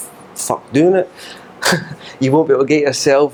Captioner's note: laughs